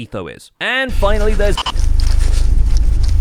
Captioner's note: running; glitch; heavy breathing